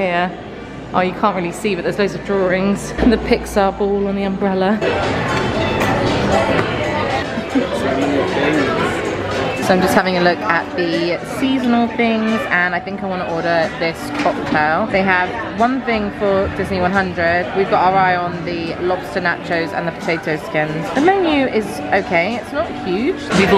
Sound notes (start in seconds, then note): 4.6 people chattering; 4.6 upbeat music; 9.0 people chattering; 9.0 upbeat music